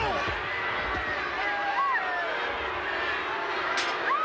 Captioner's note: crowd boos